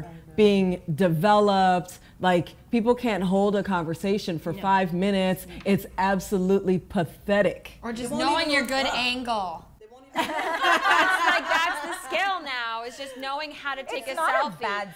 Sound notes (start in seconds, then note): 10.1 laughing